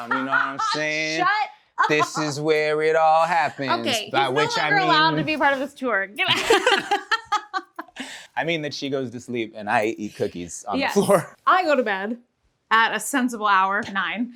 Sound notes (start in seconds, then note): 0.0 laughter